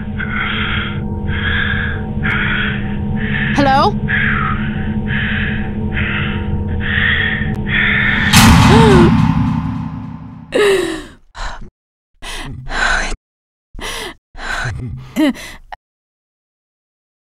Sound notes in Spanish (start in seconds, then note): 4.0 Coach continúa respirando; 10.5 Rochelle suspira